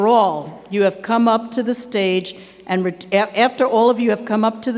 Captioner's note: none